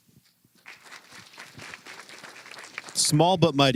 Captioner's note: applause